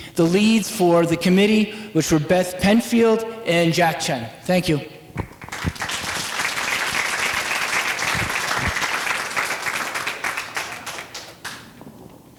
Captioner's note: applause